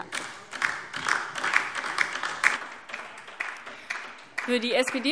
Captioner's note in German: Beifall DIE LINKE und vereinzelt SPD